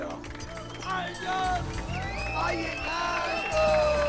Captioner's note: group cheers